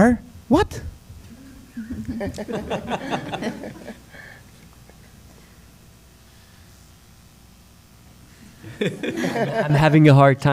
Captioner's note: laughter